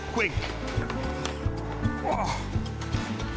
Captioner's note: groans